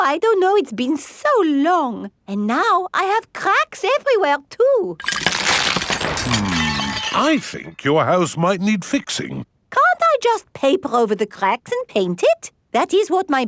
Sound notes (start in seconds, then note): 5.0 cracking